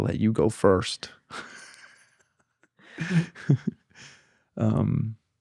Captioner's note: laughs